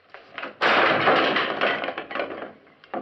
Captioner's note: chair slams